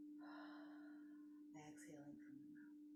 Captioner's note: exhaling deeply